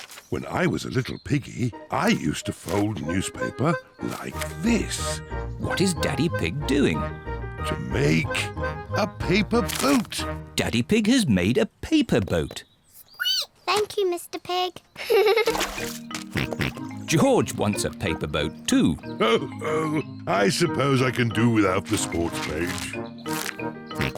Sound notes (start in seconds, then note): 13.3 squeaks; 14.9 giggles; 16.3 snorts; 19.2 chuckles